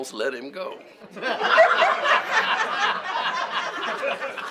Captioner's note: laughter